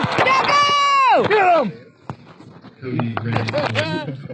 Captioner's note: cheering